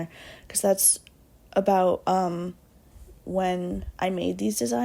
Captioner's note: none